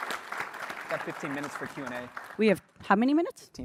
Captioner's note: applause